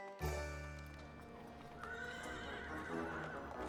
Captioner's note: horse neighs